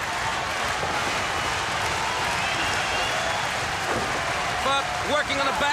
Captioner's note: crowd cheering